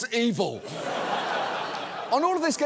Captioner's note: studio audience laughs